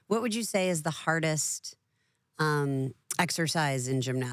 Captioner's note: none